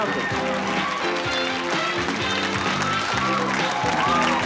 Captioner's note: cheering and applause; upbeat music